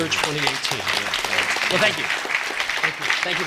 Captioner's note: applause